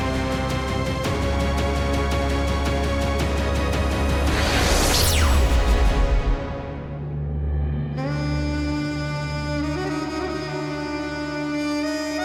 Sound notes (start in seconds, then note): 4.3 laser shoots; 8.2 dramatic theme music